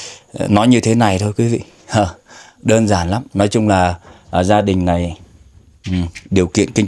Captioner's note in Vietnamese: khịt mũi